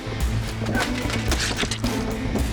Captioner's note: thump